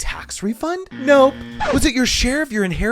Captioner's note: buzzer buzzing